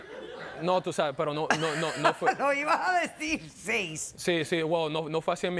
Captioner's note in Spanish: Risas del público